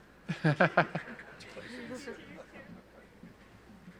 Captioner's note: laughs